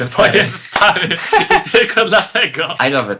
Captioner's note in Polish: śmiech